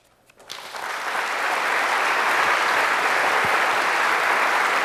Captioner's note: applause